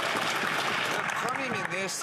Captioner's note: speaking French